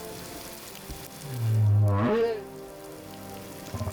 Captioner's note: moaning, honking